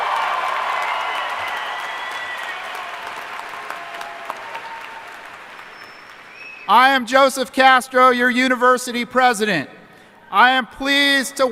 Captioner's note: cheering and applause